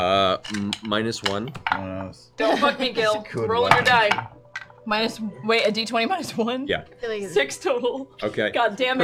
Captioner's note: laughing